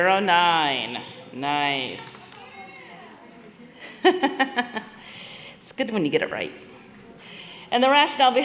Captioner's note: laughter